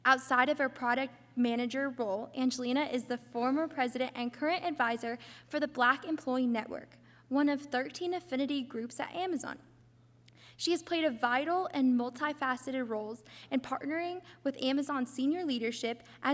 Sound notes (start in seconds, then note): none